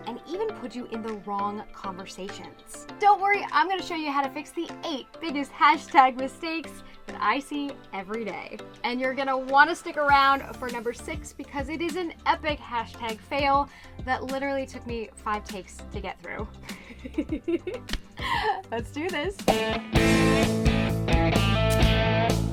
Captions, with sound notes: and even put you in the wrong conversation. Don't worry, I'm going to show you how to fix the eight biggest hashtag mistakes that I see every day. And you're gonna want to stick around for number six because it is an epic hashtag fail, that literally took me five takes to get through, (laughs) Let's do this. (upbeat music)